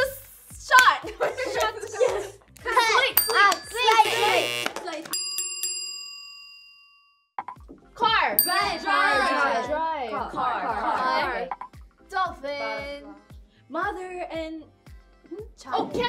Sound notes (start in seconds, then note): 3.6 buzzer ringing; 5.1 bell dinging